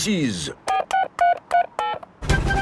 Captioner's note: dialing